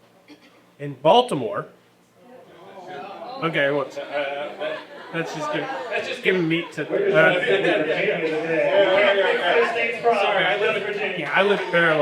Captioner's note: audience groans